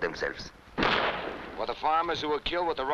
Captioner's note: gunshots blasting